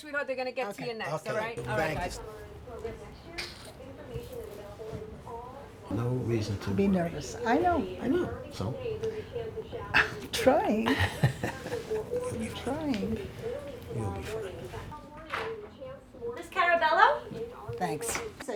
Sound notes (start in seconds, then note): 10.9 laughs